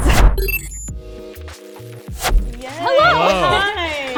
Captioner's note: electronic beeping